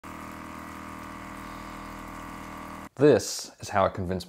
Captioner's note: machine whirring